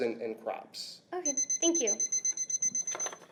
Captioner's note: beeping sounds